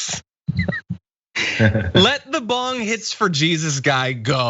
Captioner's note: laugh